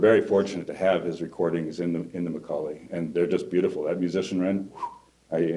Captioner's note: whistle